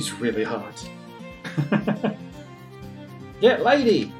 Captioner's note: chuckles